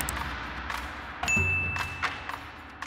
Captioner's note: snappy music; bell dings; snappy music